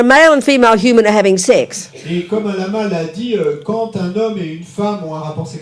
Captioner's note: speaking in French